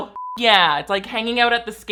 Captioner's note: beeps